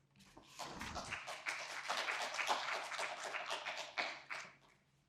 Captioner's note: audience applauding